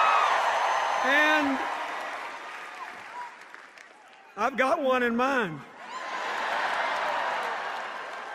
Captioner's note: applause and cheers